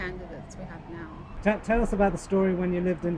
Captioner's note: voiceover